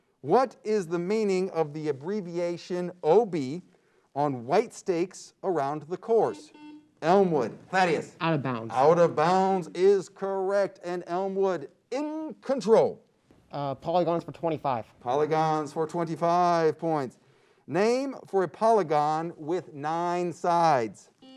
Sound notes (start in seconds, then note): 6.3 beep